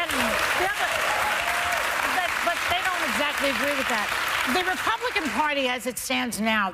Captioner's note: cheers and applause